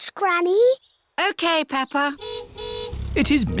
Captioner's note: car horn honks